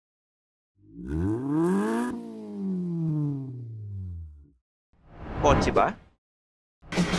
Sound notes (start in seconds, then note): 0.8 engine revs